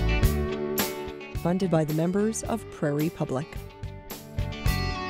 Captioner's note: voiceover; soft music